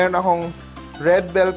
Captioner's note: sizzle